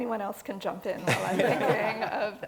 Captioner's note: laugh